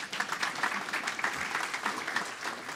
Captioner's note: applause